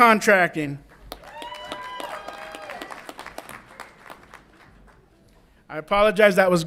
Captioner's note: audience applauds and cheers